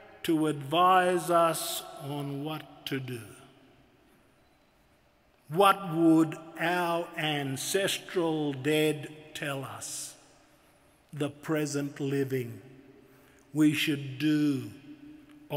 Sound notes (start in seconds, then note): none